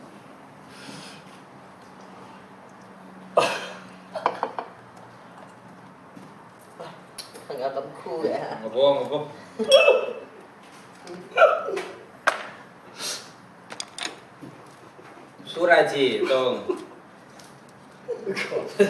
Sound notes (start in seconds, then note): 3.4 DONG chuckles; 18.0 DONG laughs